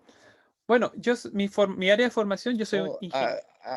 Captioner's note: speaking in Spanish